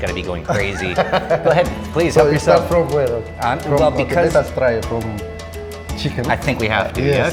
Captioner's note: laughs